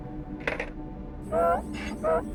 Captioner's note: Donkey's bray